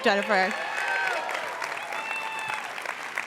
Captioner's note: cheers and applause